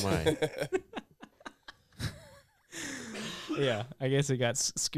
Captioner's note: laughing